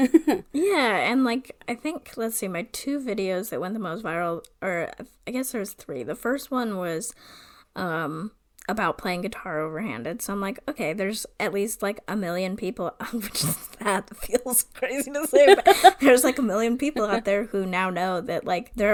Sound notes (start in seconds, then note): 14.9 laughs